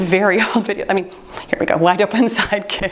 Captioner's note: timer beeps